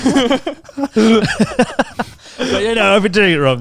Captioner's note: chuckling